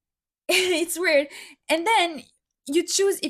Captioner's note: rire